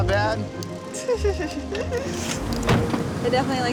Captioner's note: laughs